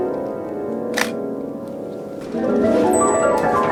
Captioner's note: pensive piano music; camera clicks; door squeaking